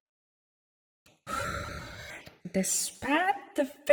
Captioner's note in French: expiration brusque